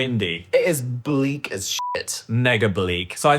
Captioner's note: beep